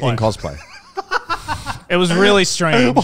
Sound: laughing

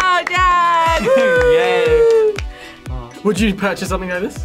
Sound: laughs

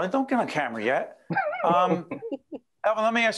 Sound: laughing

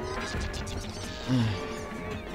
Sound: sigh

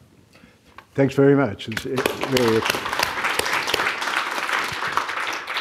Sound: audience applauding

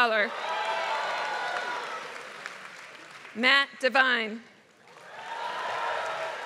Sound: applause; applause

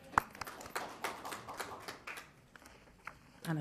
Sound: attendees clapping

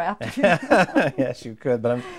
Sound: laughing

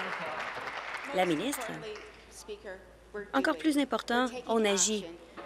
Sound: applause

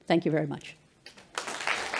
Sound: applause

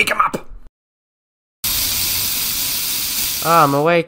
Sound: spraying sound

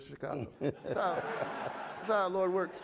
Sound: audience laughing

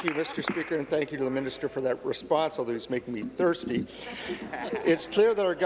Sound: some Applause

